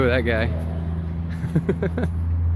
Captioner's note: laughs